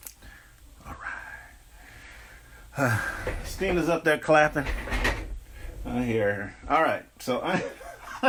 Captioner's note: laughing